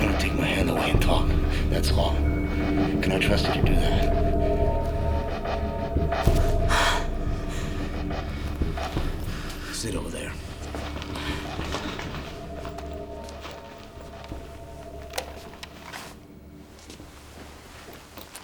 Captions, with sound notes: I'm gonna take my hand away to talk, that's all. Can I trust you to do that? (gasping) Sit over there. (recorder clicking)